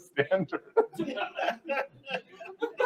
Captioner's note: laughter